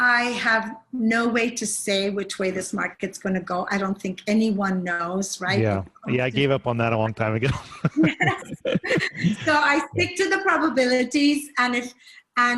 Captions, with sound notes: I have no way to say which way this market's gonna go. I don't think anyone knows. - Yeah, I gave up on that a long time ago. (laughing) - I think to the probabilities,